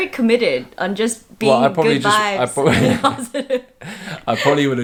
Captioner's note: laughs